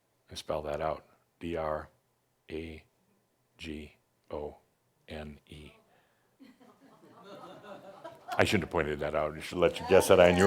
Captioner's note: some chuckles